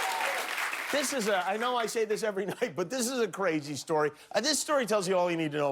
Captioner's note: cheers and applause